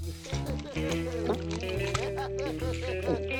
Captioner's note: gulping, chewing